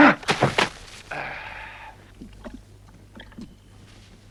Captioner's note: Torente sighs; grunts